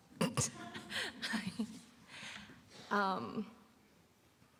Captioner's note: giggles